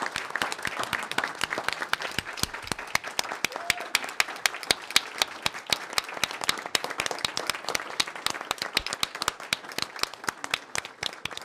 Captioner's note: applause